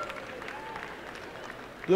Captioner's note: applause and cheering